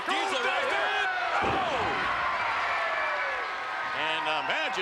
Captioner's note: spectators cheering